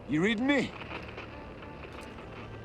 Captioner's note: radio crackles